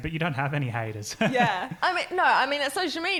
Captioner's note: laughing